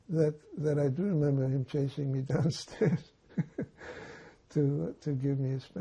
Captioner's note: laughing